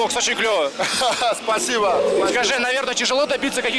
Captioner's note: laughs